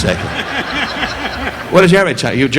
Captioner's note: audience laughing